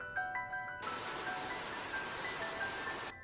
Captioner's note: television static